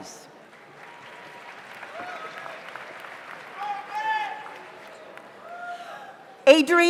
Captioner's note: audience applauds; audience cheers